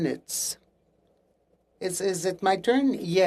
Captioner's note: speaking French